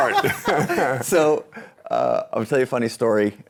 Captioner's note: laughing